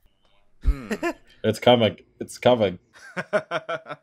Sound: laughter

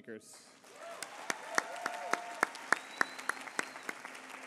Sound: applause

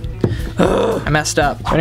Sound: deep groan

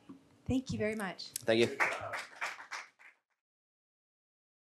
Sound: crowd applauds

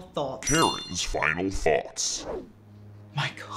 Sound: deep Altered Voice; dramatic music

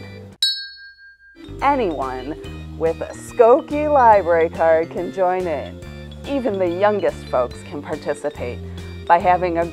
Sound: ding

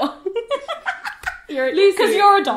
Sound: laughing

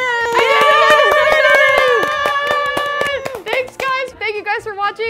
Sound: everyone cheering

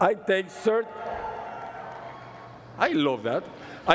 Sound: cheering

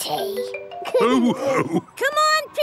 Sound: all laughing

